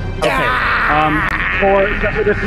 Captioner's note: screams